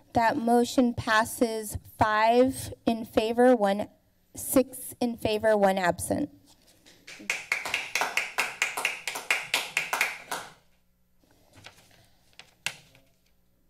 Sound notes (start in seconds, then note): 7.1 members applauding